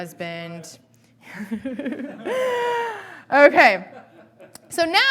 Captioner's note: laughing